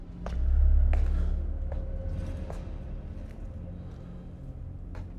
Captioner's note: footsteps approaching